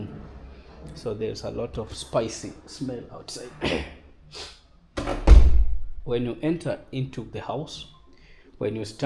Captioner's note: clears throat and snorts